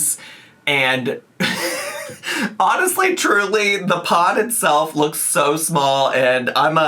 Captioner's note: laughs